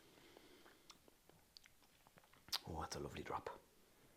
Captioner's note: lips smacking